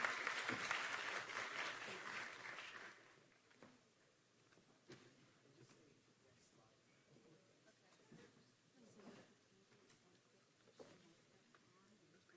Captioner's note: applause